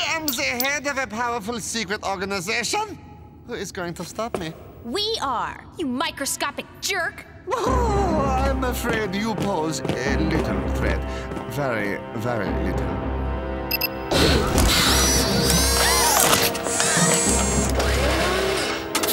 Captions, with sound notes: I am the head of a powerful secret organization! Who is going to stop me? We are. You microscopic jerk! Oh, I'm afraid you pose a little threat. Very, very little. [girls gasp]